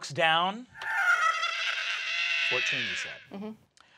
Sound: cackling

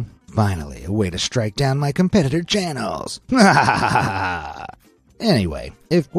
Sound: maniacally laughs

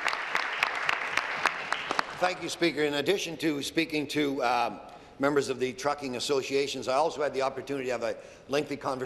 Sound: applause

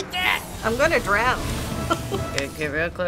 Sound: chuckles

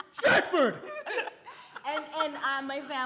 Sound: laughing

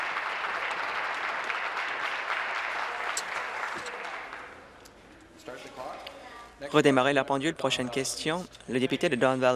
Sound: applause

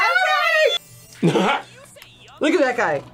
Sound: laughs

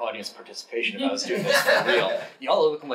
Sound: audience laughing

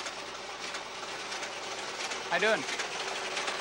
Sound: machine shuffles

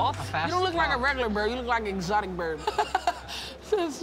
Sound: laughs

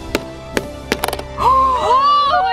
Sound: sharp knocking; metal clicking

